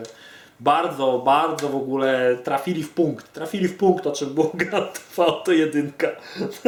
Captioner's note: giggle